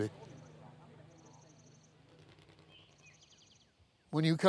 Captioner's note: birds chirping